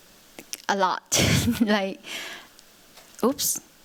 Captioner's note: chuckles